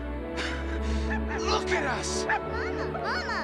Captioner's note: barking